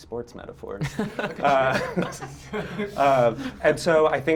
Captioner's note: group laughs